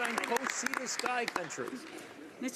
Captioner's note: some Applause